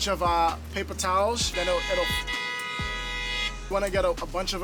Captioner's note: car horn